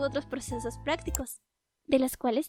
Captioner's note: click